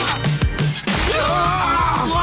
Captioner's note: screaming